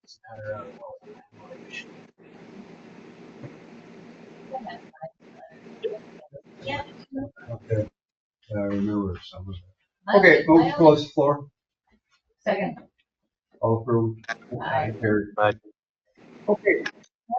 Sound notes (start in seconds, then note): 2.0 murmuring; 2.0 static crackles; 4.5 board members murmuring indistinctly